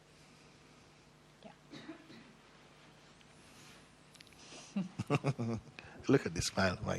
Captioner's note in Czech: smích